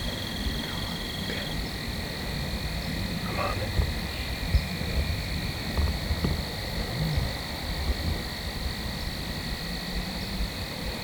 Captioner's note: insects / frogs